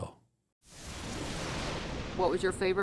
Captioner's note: thunder rumbling